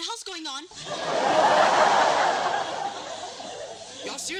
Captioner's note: laughter